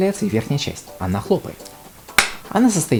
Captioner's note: clap